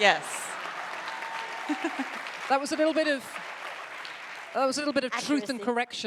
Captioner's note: audience applauding